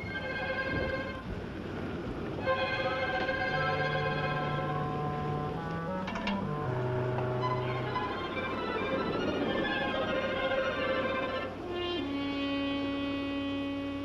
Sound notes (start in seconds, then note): none